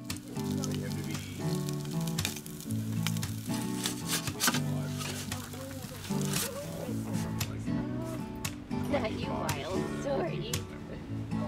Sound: bright guitar music; laughing

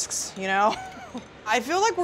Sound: chuckles

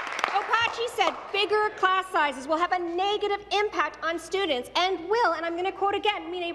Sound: applause

